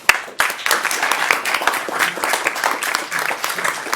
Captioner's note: audience applauds